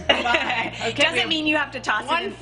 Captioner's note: laughing